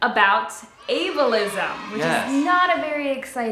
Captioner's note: child cheering